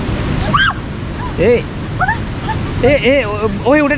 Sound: screaming

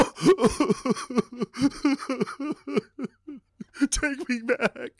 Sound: Magnar coughs and begins to cry

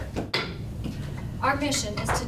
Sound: gavel banging

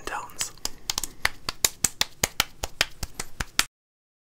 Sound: palms slapping

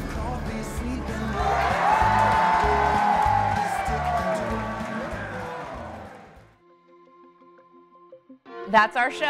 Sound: cheers and applause

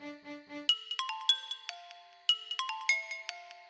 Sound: phone rings

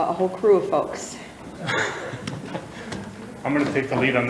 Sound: some chuckling

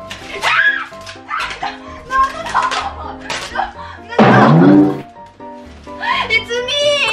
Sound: screams

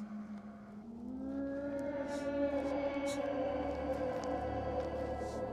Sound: creature growling

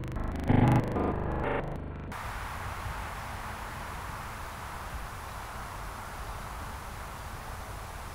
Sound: soft wind blowing

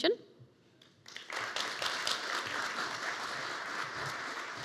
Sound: audience applauding

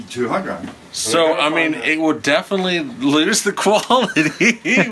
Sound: laughing

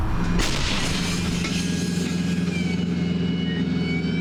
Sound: orcs roar from afar

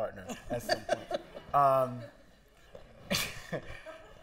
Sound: laughter

